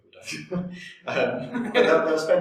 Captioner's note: both laugh